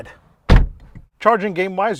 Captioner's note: car door bangs